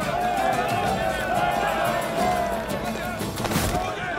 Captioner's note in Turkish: Tezahürat sesleri